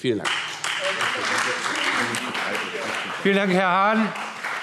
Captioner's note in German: Beifall Freie Demokraten